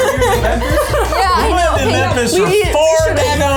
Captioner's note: laughs